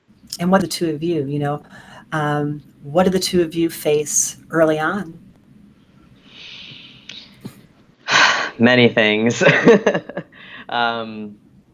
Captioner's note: exhales